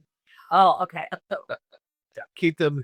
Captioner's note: chuckles